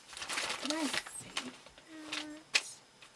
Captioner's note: ruffles paper